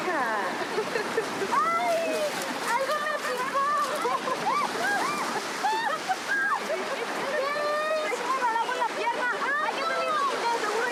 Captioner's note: speaking in Spanish